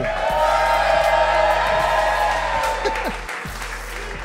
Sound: crowd cheers

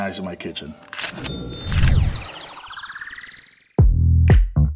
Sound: ka-ching; upbeat music

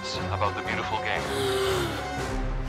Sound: gasping

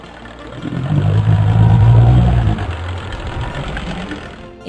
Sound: boat engine revving

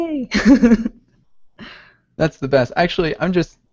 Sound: chuckles

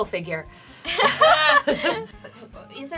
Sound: laughing

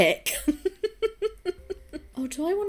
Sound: chuckles

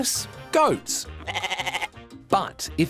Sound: bleats

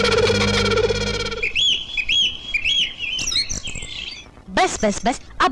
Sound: birds Chirping

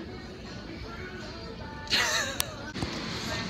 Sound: laughs

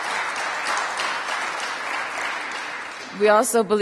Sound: applause

